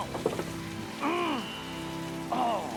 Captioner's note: Jakob growls